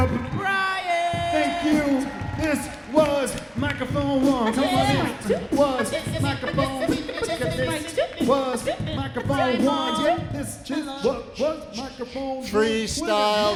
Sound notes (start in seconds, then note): 1.0 beat boxing